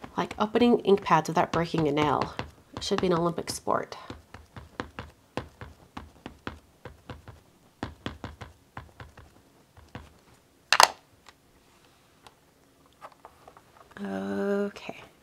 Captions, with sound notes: Like opening ink pads without breaking a nail. It should be an Olympic sport. (ink pad tapping) (ink pad clicks) Okay.